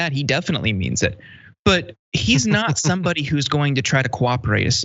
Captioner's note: laugh